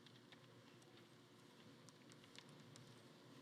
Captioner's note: none